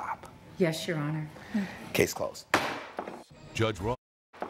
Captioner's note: gavel bangs